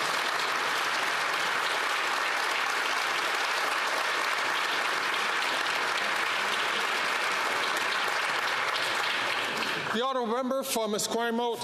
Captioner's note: some Applause